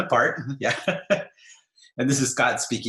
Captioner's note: laughter